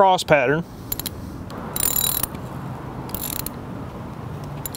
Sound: tightening screw

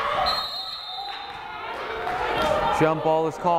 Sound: whistle blows

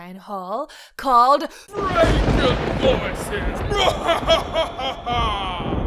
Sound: laughing

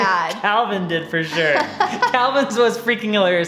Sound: laughs

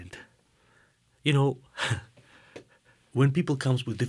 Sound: chuckling

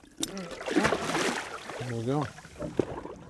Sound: fish splashing

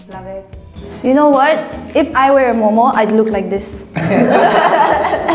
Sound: laughs

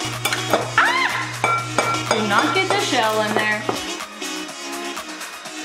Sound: shrieks

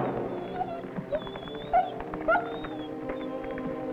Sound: Rebel whines

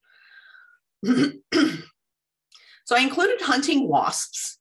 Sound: clears throat

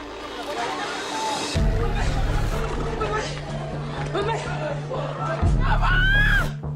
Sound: screaming; yelling

